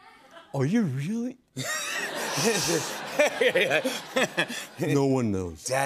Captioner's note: laughs